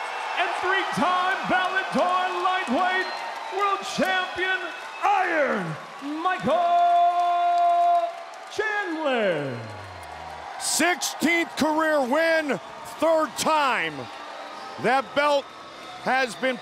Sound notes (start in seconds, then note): 10.3 cheers continue